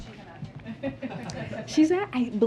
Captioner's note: laughter